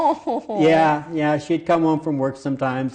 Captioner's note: laughs